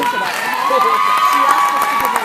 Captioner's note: cheers